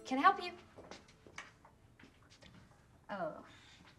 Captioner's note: footstep